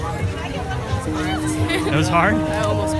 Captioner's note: laughs